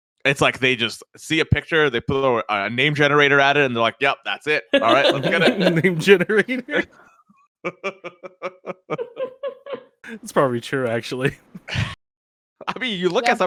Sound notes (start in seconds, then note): 4.7 laughs